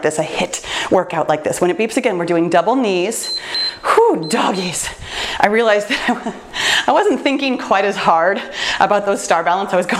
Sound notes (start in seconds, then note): 3.2 timer beeps